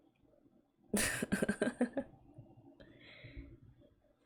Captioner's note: laughs